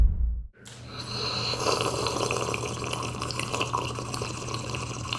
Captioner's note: slurping sound